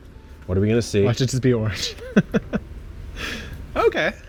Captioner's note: laughs